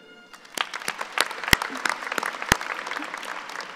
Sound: applauding

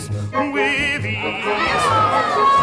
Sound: crowd roaring

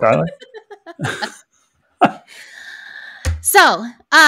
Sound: chuckles

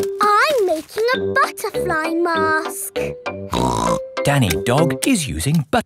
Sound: snorts

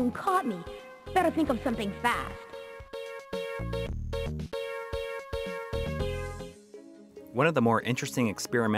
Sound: game Audio

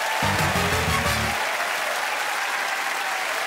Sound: applause

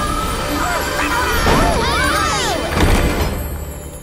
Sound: all shouting

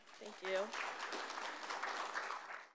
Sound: clapping

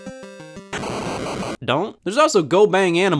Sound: video game beeps

